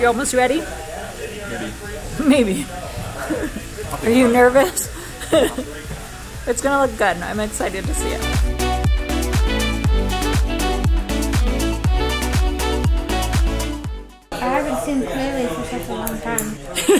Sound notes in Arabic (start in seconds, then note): 3.1 يضحك; 7.8 موسيقى مبهجة